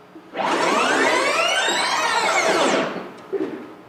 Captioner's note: tape rewinding noise plays